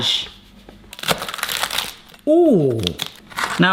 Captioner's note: samosas crackle